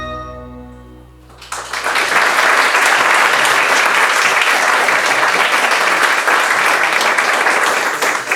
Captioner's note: music fades out; applause